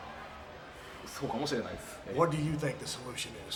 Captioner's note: Tajiri speaks Japanese